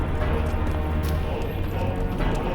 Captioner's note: fire crackling